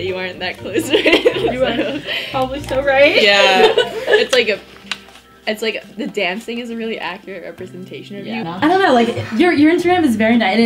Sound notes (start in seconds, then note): 0.8 laughs; 3.1 students laughing